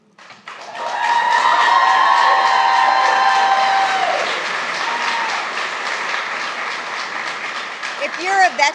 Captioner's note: applause